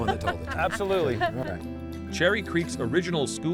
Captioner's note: laughing